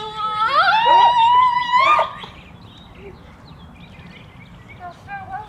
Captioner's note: shrieking